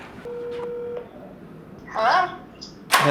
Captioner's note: phone Ringing